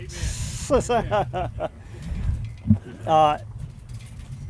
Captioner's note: laughing